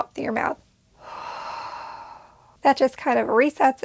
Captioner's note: exhales heavily